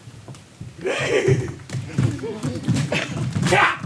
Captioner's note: dancer neighs